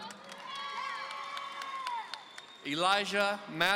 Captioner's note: audience cheering